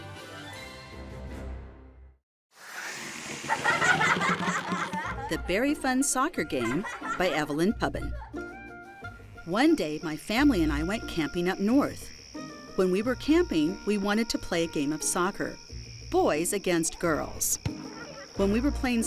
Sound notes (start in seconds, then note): 3.2 children laughing; 4.3 logo whooshing